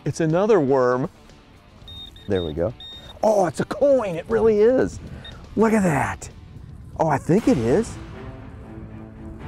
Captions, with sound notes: It's another worm. (beeping) There we go. Oh it's a coin, it really is. Look at that. Oh I think it is.